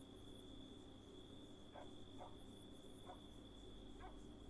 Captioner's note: dog barks